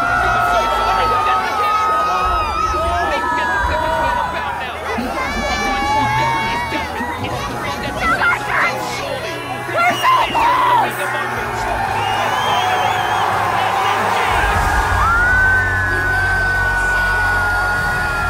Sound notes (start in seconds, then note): 0.1 crowd cheering; 5.1 crowd shouting; 12.1 crowd cheering; 14.8 warm triumphant music